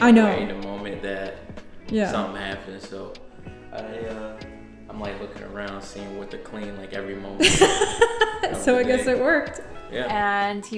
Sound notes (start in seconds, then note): 7.4 laughing